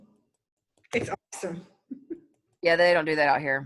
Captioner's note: chuckles